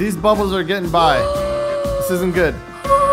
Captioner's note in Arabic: تلهث